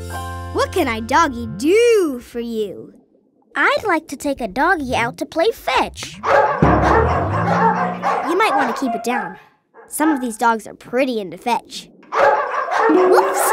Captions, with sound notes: What can I doggy doo for you? I'd like to take a doggy out to play fetch. [barking] You might want to keep it down. Some of these dogs are pretty into fetch. [barking] Whoops!